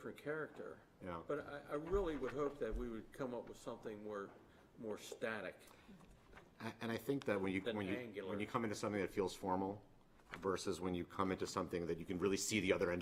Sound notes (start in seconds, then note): none